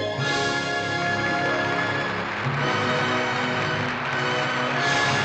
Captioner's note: audience Applauding